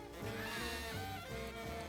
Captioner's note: inhale